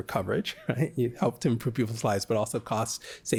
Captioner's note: laughter